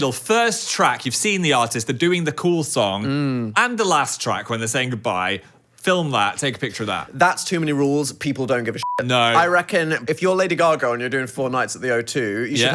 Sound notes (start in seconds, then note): 8.8 beep